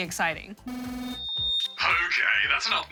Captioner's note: electronic whining, screeching